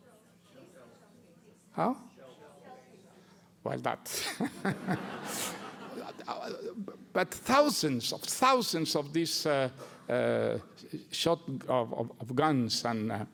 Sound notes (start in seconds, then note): 4.2 laughter